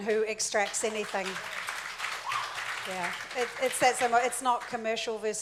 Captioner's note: audience applauds